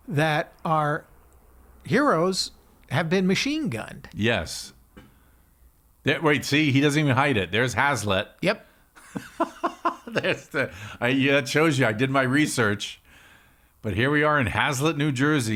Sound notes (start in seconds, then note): 9.0 laughing